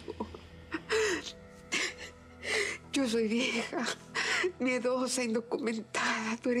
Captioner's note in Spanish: sollozos